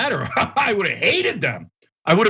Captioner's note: laugh